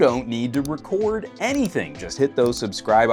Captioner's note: mouse clicking